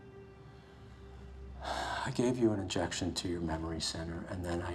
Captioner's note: sighs